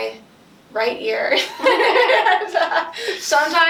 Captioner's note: laughs